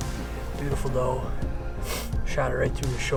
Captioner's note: sniffles